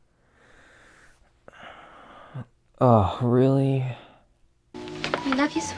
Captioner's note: deep sigh